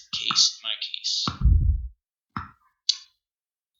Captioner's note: boom